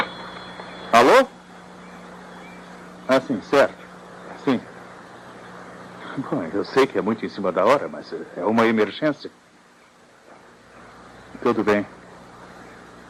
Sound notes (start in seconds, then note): 0.0 phone ringing